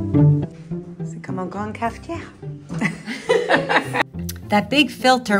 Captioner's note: woman speaking in foreign language